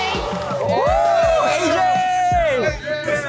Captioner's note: ARMYs cheer